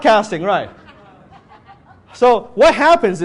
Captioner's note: audience members mumble